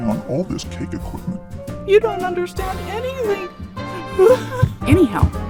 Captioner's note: sobs, retreating footsteps, door slams